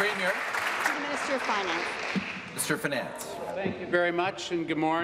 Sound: applause

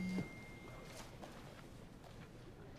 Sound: cell phone dings

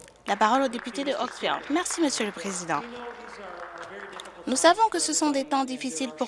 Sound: some applause

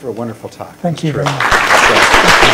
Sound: applause

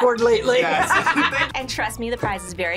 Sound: both laugh

